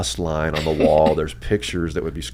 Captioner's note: laughs